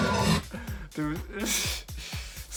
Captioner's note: can't stop laughing